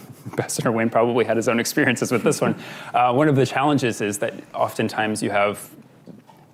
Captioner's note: laughs